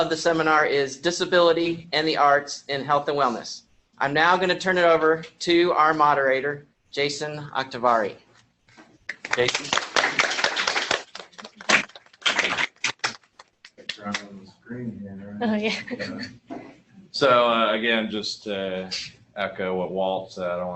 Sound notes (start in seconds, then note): 9.1 applause